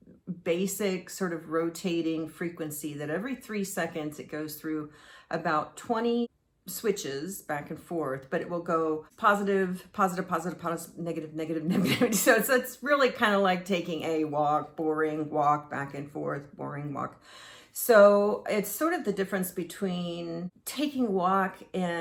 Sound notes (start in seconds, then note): 11.7 chuckles